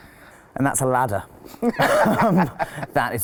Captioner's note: laughs